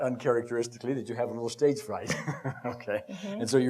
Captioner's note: laughs